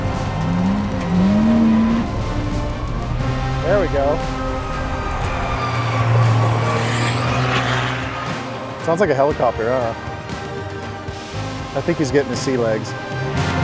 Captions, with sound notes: (truck engine roaring) - There we go. (truck engine roaring) Sounds like a helicopter, huh? I think he's getting the sea legs.